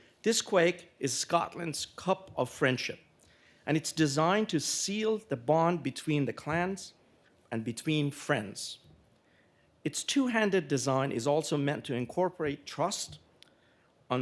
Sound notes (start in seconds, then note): none